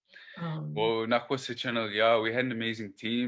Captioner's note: speaking Tŝilhqot’in